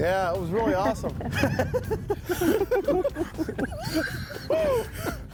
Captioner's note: everybody laughing